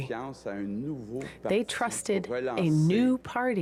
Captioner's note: speaking French